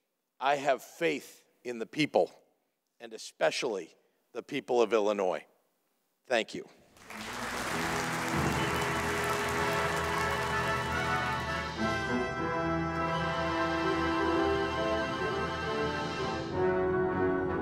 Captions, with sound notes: I have faith in the people, and especially the people of Illinois, thank you. (audience applauding) (triumphant music)